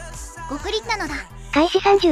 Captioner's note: gulp